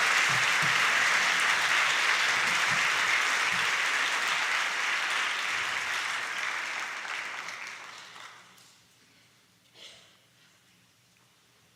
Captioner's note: applause